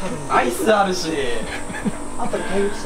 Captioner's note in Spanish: ríe